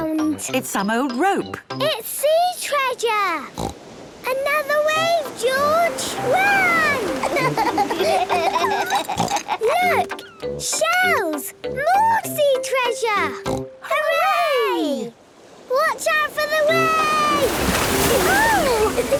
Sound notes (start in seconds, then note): 6.4 laughs; 8.8 snort